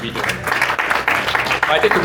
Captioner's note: applause